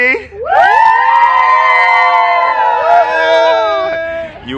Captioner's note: crowd cheers